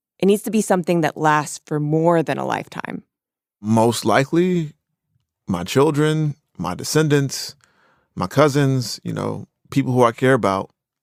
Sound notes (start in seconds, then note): none